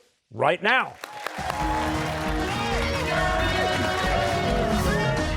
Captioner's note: cheers and applause